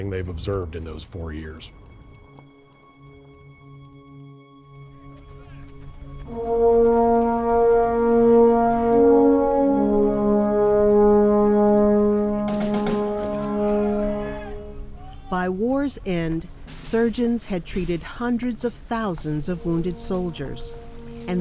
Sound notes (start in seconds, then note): 1.9 gentle music; 6.2 dramatic music; 12.2 soldiers chattering; 12.4 guns popping